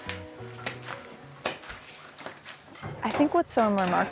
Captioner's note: candy slapping counter